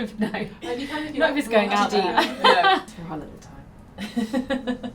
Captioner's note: chatter